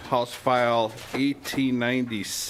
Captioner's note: gavel